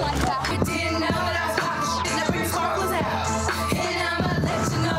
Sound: beep

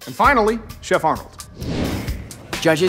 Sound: whoosh

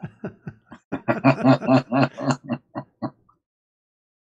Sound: laughter

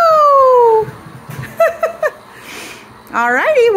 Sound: laughs

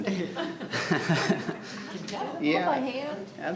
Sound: people chuckling

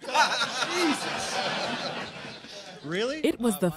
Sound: audience laughing

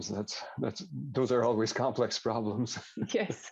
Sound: laughs

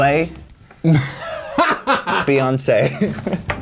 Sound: laughs

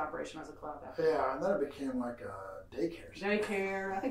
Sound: laughs

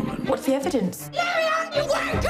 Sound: yelling

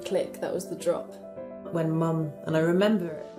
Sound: voiceover

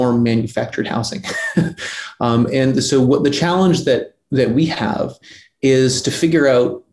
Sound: laughs

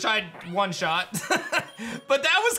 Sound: laughs

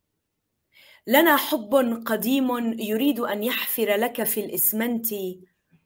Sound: speaking in foreign language

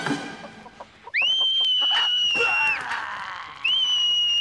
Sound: dramatic music; scream

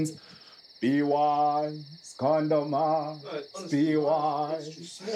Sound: mocking

